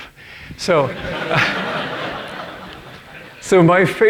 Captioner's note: audience laughing